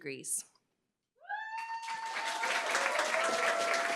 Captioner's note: cheering, applause